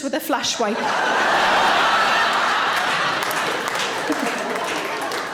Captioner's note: audience laughing